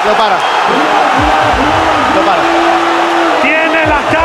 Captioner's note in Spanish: Gritos